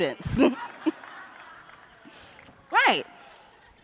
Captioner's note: laughter